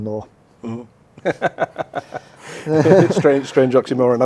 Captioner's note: laughing